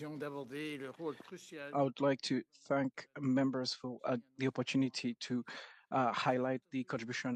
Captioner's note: speaking French